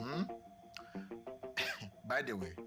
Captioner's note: clears throat